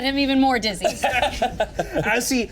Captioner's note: Thoren laughs